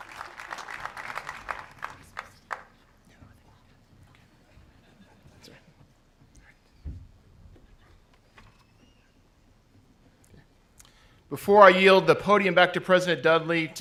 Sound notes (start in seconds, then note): 2.0 whispers; 4.7 audience laughs